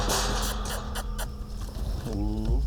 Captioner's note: sighs; squeaky kisses